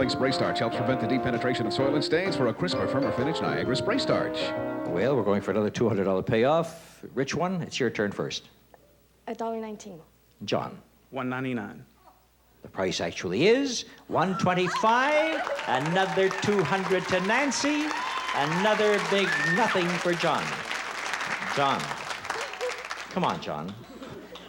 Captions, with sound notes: Helps prevent the deep penetration of soil and stains for a crisper, firmer finish. Niagara Spray Starch. -Well, we're going for another $200 payoff. Which one? It's your turn first. -A dollar 19. -John? -$1.99. -Price actually is, $1.25. (cheering and applause) Another 200 to Nancy. Another big nothing for John. John. Come on, John.